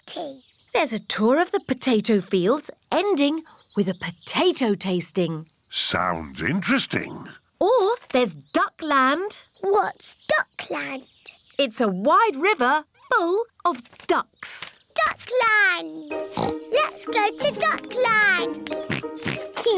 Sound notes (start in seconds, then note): 16.2 oinks